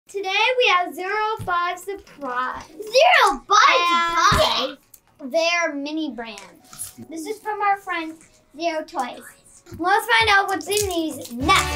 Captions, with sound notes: - Today we have Zuru 5 Surprise. - Zuru 5 Surprise? (yelling) - And they're mini brands. - This is from our friend Zuru Toys. - Let's find out what's in these next!